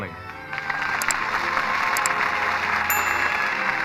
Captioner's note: applause